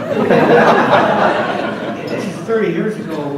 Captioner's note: audience laughs